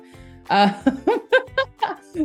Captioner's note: laughs